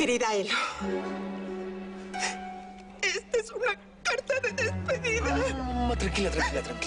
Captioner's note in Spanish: Exhalación profunda; Solloza